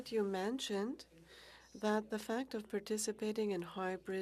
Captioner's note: speaking French